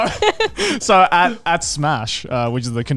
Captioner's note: all laughing